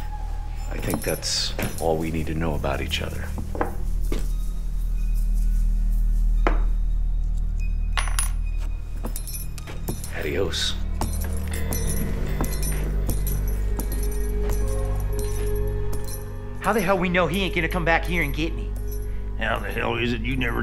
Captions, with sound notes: I think that's all we need to know about each other. (coin clanks) Adios. - How the hell we know he ain't gonna come back here and get me? - How the hell is it you never told me you was a rapist?